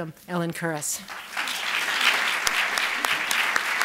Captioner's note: applause